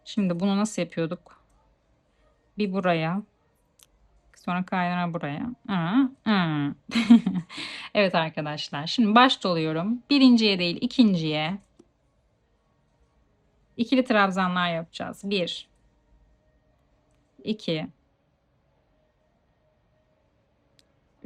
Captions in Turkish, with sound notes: Şimdi bunu nasıl yapıyorduk? Bir buraya sonra kaynağı buraya. [kahkaha] Evet arkadaşlar, şimdi baş doluyorum. Birinciye değil, ikinciye ikili tırabzanlar yapacağız. 1 2